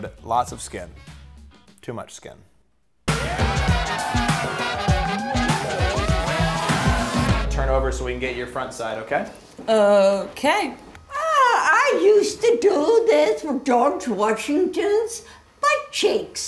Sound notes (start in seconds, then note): 3.0 crowd cheering; 3.0 upbeat music